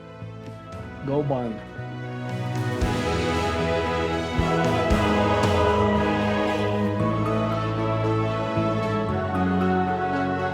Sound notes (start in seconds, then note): 1.1 Tector speaks faintly; 3.2 triumphant music